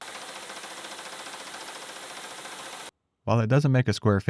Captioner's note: machine whirring